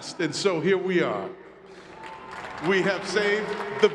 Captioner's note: crowd clapping